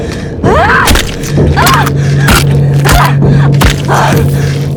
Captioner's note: slow ambient music; Lamya cries out; slow ambient music